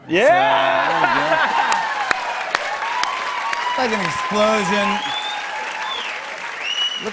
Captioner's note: cheers and applause